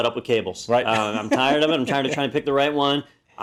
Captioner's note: laugh